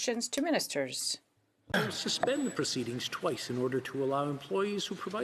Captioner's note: speaking French